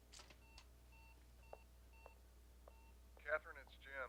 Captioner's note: answering machine beeping